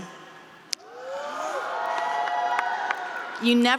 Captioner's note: students cheering